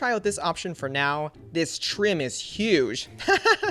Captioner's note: laughs